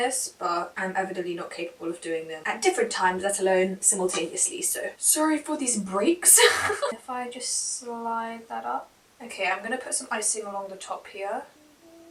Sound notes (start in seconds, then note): 6.4 nervous laughter ha